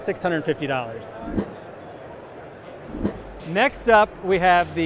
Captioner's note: air whooshing